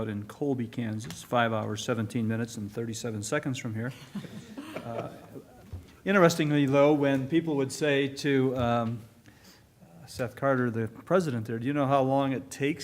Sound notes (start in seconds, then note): 3.9 laughter